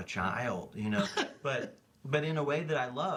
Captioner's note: laughs